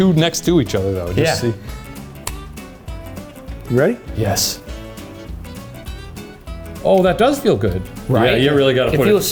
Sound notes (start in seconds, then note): 2.2 device clicking; 2.4 upbeat music continues